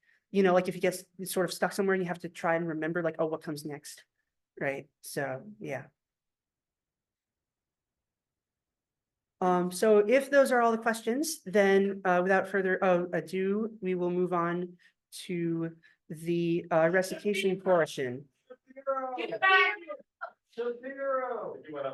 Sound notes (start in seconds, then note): 15.5 people shouting "Shapiro get back here!" from the classroom